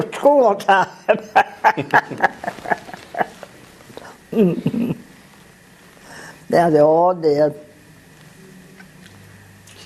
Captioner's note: laugh